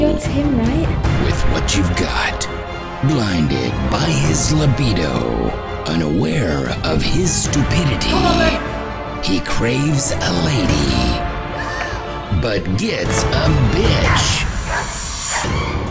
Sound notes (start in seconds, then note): 11.6 gasp